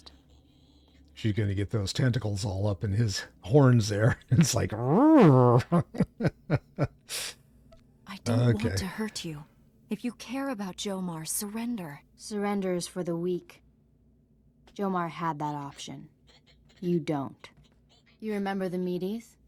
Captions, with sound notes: - She's gonna get those tentacles all up in his horns there. It's like (growls) Okay. - I don't want to hurt you. If you care about Jo-Mar, surrender. Surrender is for the weak. Jo-Mar had that option. You don't. You remember the meaties?